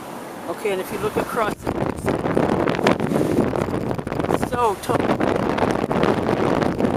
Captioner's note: wind noise blocks out words